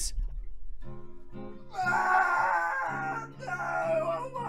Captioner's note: screaming in the distance